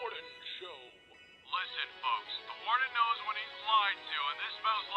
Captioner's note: on Radio